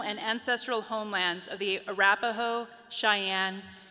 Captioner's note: none